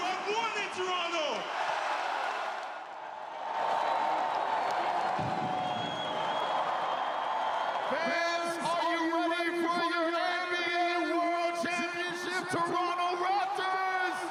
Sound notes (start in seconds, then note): 7.4 cheering; 7.8 yelling